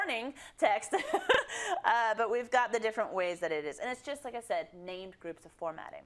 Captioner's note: laugh